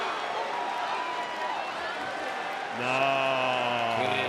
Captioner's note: applause